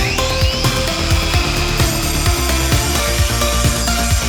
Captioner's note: tool buzzing